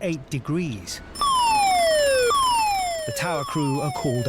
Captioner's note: alarm blasts